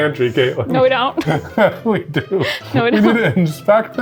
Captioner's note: laughs